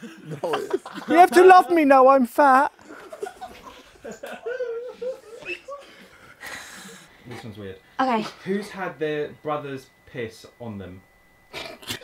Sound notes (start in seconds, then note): 2.8 people laughing